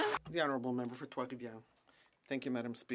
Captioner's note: speaking French